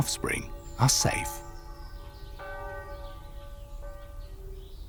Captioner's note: bell ringing